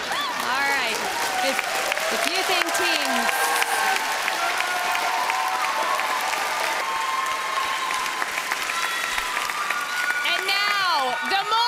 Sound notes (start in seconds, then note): 3.7 applause